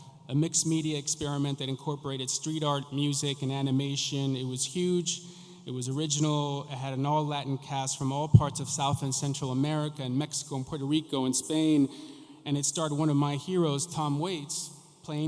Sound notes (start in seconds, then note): none